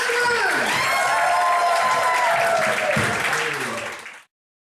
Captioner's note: cheering and applause